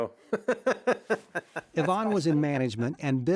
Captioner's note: laughs